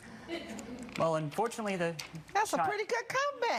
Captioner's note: audience giggling